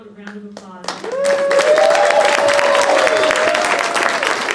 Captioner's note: audience cheering